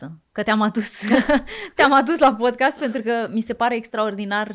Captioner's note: laughter